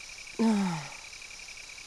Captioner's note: sigh